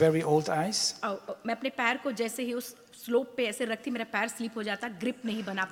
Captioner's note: speaks foreign language